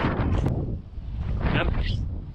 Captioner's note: wind blowing